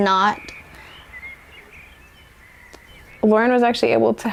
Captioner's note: birds singing